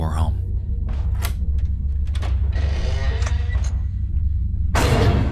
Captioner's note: door squeaks and thuds